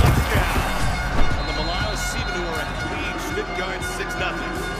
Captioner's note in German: Leise Kommentatorenstimme auf Englisch; Stadionhupen